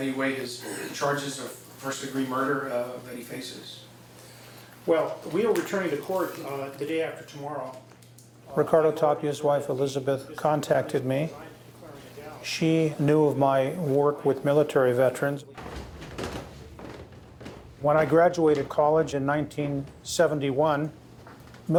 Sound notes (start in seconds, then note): 15.4 footsteps creaking